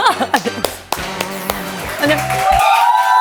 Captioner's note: applause